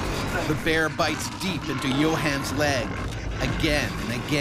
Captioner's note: voiceover